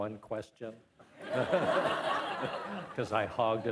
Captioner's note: participants laughing